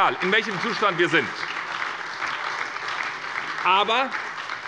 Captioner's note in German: Beifall bei der SPD